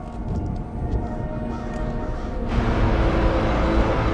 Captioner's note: crows cawing in distance; brass section swells